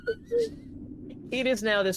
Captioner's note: laughing